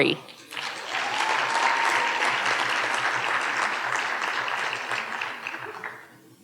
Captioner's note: audience cheering and applauding